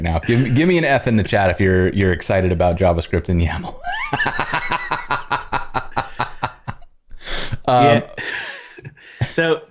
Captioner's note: laughter